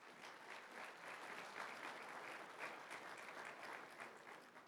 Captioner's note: applause